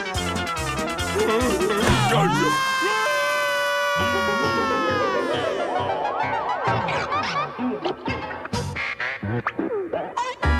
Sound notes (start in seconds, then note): 1.8 screaming